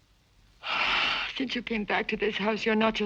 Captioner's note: sighs